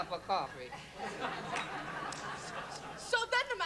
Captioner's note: laughter